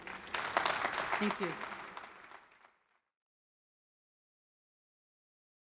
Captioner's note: crowd applauding